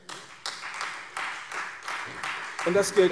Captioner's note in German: Beifall Freie Demokraten und vereinzelt SPD